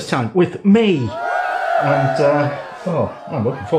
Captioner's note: cheering